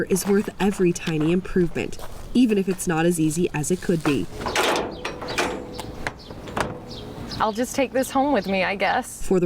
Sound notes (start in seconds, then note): 4.4 bar clanging